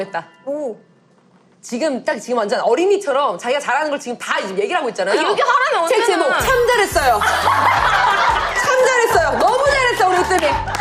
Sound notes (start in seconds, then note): 7.4 ha ha ha